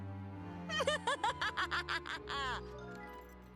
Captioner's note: evil laugh